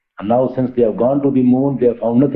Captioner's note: laughing